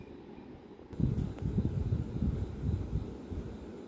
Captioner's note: 𝙍𝙐𝙈𝘽𝙇𝙀!!!